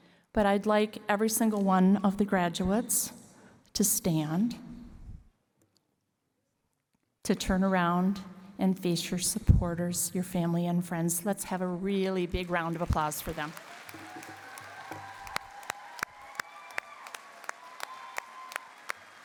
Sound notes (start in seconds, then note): 14.3 cheering and applause